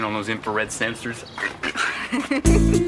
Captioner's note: chuckling